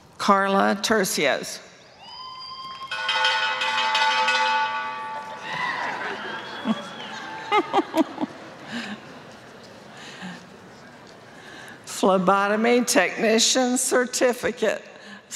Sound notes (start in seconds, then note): 4.2 laughter and cheering; 5.1 applause; 5.1 bell ringing